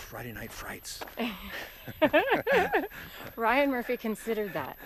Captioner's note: both laugh